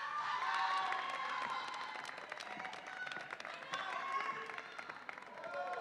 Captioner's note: audience applauds and cheers